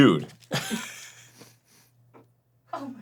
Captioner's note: sniff sniff